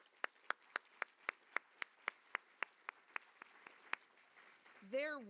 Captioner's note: applause